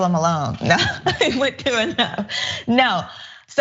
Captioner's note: laugh